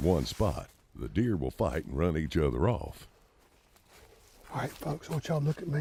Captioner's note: footsteps crunching